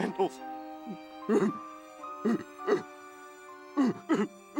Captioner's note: sobbing